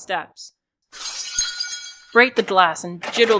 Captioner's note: breaking glass and doorknob jiggling